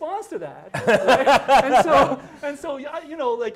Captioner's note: laughing